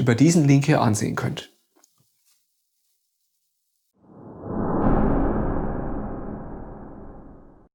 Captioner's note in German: woosh